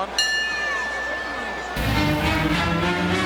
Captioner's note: bell ringing; triumphant music